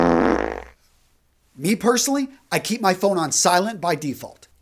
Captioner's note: fart sound